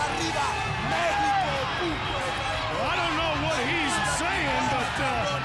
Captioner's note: crowd chatter; crowd cheering